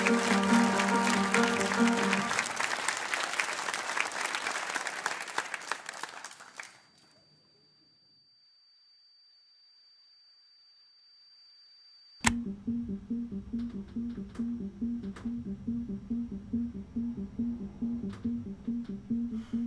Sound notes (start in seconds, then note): 0.0 canned studio audience applauding; 7.4 an irritating high pitched tone; 12.2 soft piano music